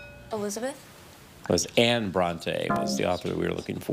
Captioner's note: bell dings; buzzer buzzes